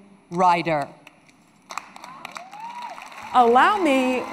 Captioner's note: applause